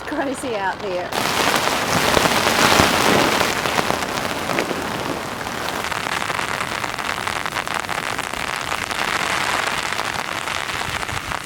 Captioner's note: sound of heavy rain